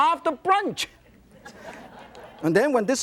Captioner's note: laughter